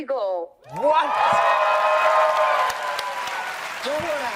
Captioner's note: audience cheers